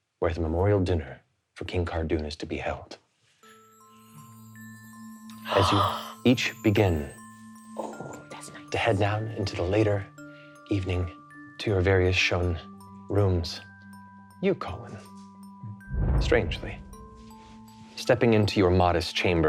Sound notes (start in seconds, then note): 3.4 chimes ringing; 3.5 gasps